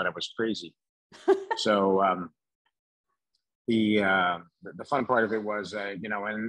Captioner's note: laughs